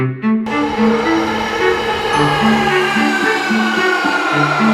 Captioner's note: train zooming